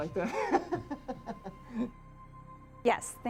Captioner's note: both laugh